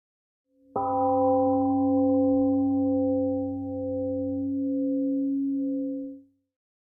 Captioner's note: temple gong sounds and fades